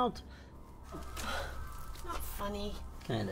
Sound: scoffs

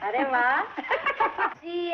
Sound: laughing

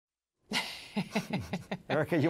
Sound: laughs

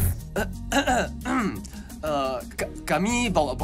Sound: clears throat

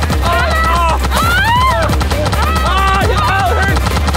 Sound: screaming

